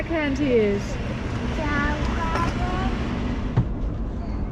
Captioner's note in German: murmelt